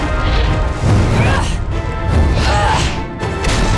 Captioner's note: grunting